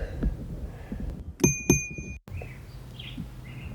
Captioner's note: bike bell